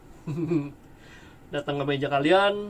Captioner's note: laugh